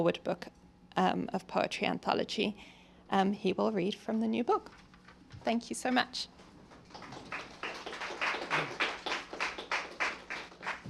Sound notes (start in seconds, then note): 6.8 applause